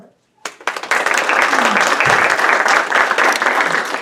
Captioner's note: audience applauds